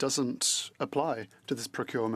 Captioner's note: speaking French